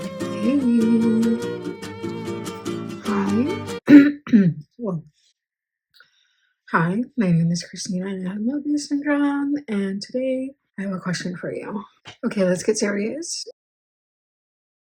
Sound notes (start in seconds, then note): 3.8 clears throat